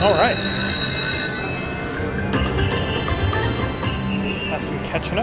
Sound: slot machine chiming

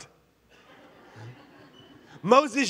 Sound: congregation laughing

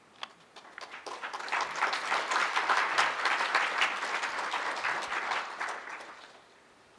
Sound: applause

